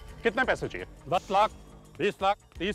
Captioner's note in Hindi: none